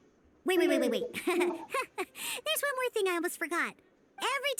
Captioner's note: laughs